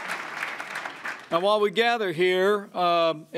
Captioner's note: applause